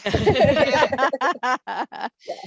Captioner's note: laughter